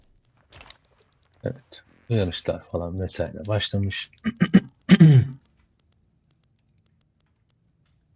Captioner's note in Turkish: öksürme